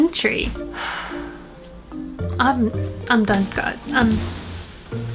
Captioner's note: deep exhale